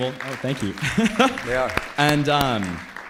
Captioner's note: audience applauds